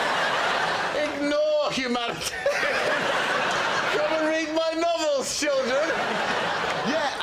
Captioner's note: laughter